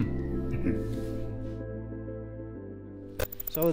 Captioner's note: laughs